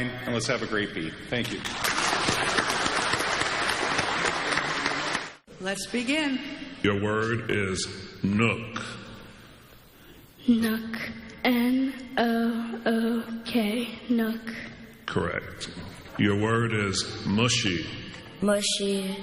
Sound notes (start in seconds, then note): 1.4 clapping